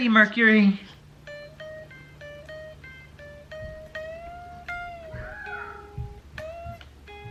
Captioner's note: guitar tunes; screams